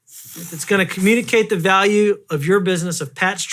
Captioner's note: blows raspberry